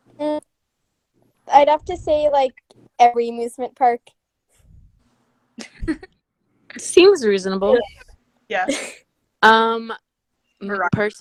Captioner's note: chuckle